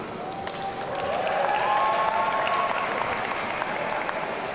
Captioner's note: audience cheering